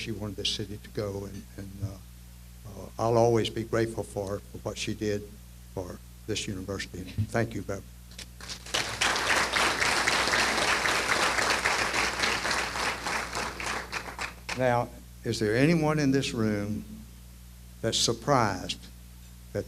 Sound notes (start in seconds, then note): 8.3 applause